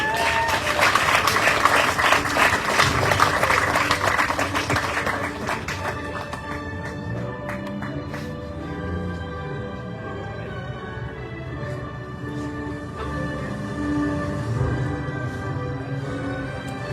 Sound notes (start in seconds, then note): 0.0 audience cheering, applauding; 8.4 car revs-up in distance